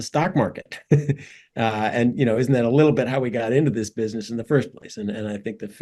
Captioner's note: laugh